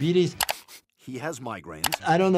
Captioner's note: Brian sniffing